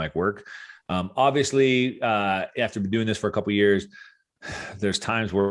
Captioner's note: sighs